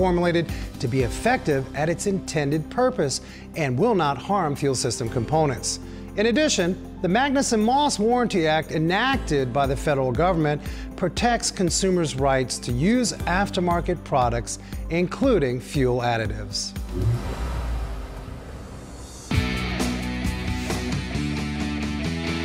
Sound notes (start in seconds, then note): 16.8 engine revving